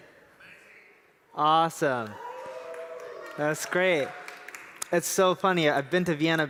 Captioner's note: applause